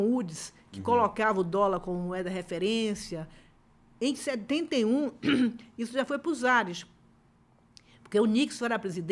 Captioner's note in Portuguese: limpando a garganta